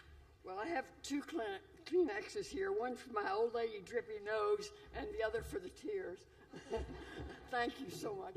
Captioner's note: laughter